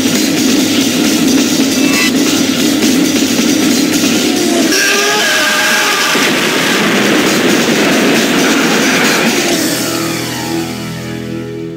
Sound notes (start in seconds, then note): 5.9 explosion